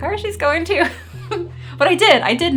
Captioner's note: chuckling